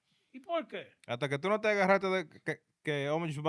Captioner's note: speaking In Foreign Language